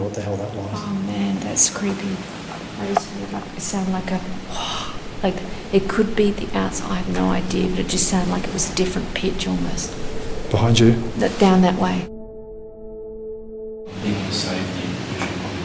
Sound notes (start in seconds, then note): 2.8 exhaling; 12.5 dramatic music